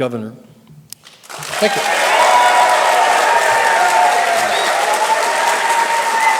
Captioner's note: audience applause and cheers